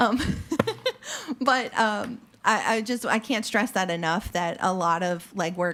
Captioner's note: laughs